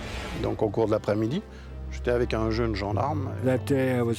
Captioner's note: speaks in foreign language